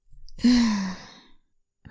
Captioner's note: sigh